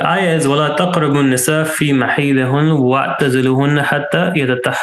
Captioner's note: speaking in Arabic